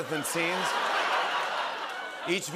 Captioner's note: laughter